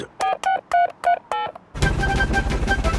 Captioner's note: dialing